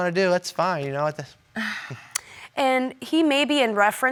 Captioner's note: sighs